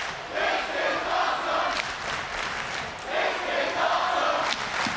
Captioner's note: audience chanting